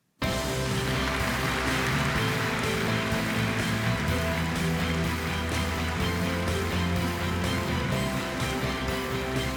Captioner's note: appause